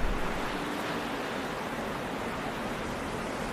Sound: eerie noise

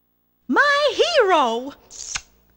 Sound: Smooch

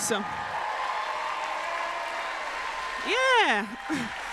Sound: applause

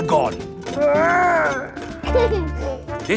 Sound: giggles

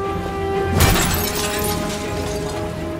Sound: glass shatters

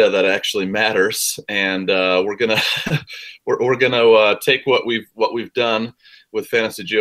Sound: laugh

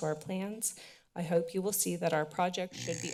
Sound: mic sounds

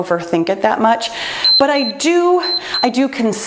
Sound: timer beeps

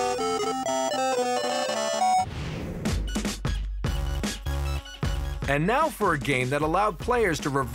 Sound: arcade sounds

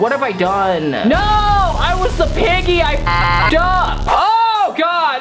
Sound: beep

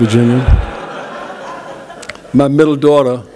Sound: laughter

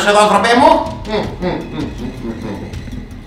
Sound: groans

